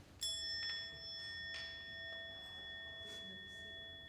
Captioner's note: bell tone sounding